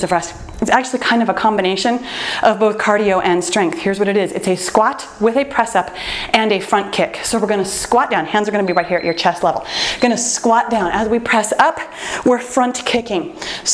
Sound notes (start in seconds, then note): 8.4 timer beeps